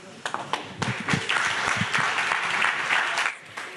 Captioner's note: audience clapping